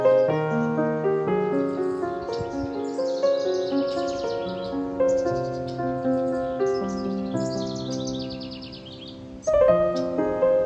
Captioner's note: blue sky with clouds lit by the rising sun, tree tops, birdsong